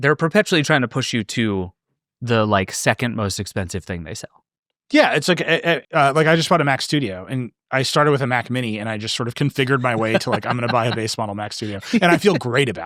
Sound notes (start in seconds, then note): 10.9 laughing